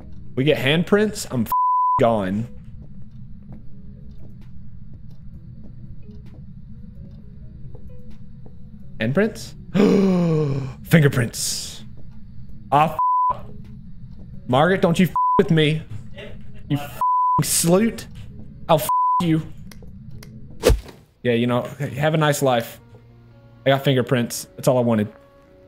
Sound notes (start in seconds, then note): 9.7 inhale